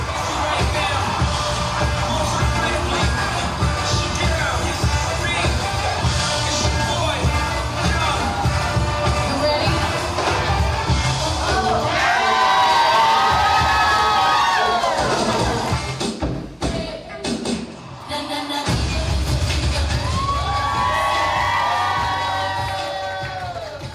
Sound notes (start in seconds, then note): 13.3 cheering; 18.2 cheering